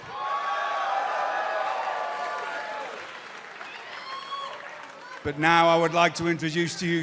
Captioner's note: cheers and applause